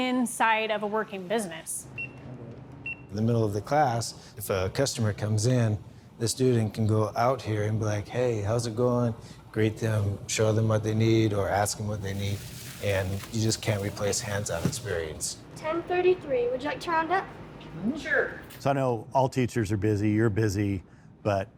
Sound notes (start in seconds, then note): 1.9 machine beeping